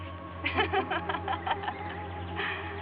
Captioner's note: laughing